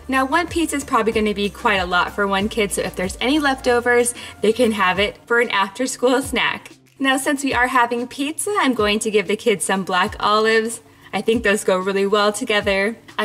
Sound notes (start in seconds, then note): none